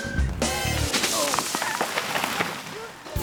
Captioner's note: branches snapping